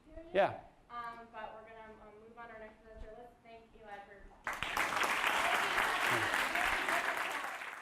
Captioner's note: voiceover; applause